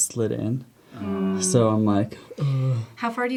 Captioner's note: groans